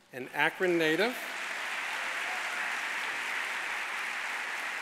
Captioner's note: audience applauding